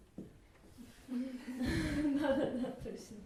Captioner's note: laugh